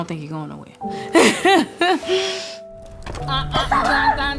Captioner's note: laughs